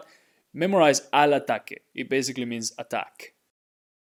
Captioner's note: speaking in Spanish